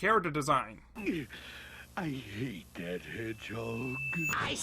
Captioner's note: grunts